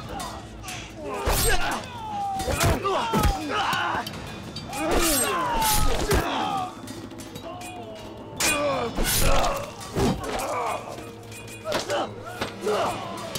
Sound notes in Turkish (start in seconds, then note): 0.0 Kılıç sesi; 2.3 Dövüş sesleri; 4.7 Bağırma sesi; 8.3 Kılıç sesi; 11.5 Dövüş sesleri